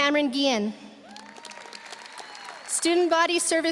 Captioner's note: audience cheering; audience applauding